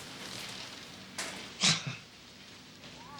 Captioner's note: chuckles